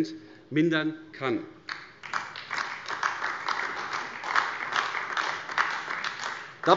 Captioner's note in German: Beifall AfD